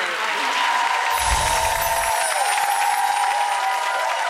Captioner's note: applause